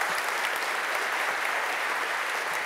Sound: applause

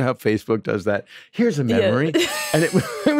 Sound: laughs

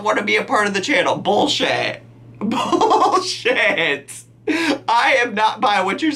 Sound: laughing

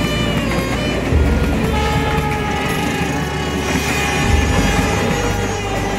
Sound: train Passing, Horn sound

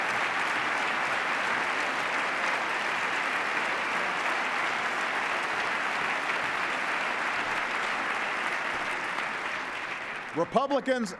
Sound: cheers, applause

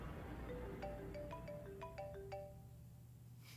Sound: phone rings

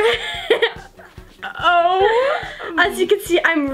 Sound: laughing

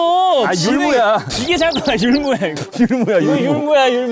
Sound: bleh

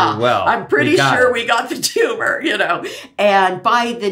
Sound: laughs

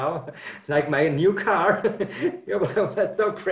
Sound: laughs

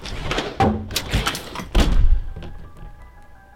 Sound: crash; slam

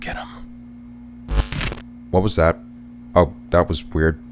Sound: static

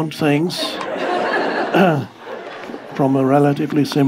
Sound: audience laughing

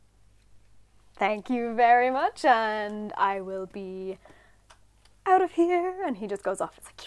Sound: singsong

